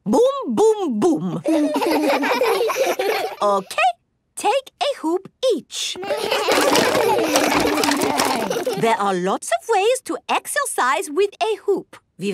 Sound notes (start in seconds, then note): 1.4 laughs; 6.0 all laugh